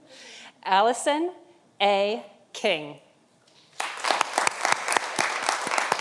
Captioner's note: audience applauding